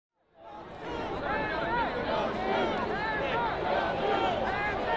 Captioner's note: crowd chanting